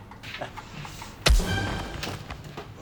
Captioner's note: pow